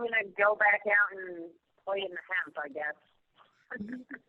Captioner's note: laughs